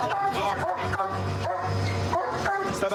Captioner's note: barking